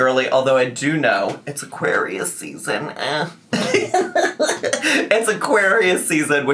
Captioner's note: laughs